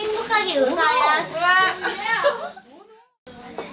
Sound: spraying sound

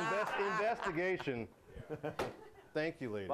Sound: laughter

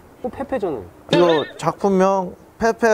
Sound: hahahahahahahaha

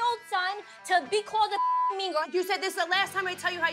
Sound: beep

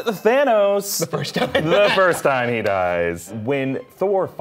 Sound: chuckling

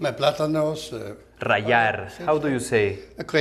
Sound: speaking Spanish

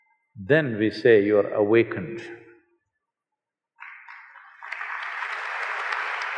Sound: applause

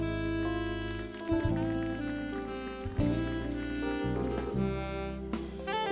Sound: audience applauding

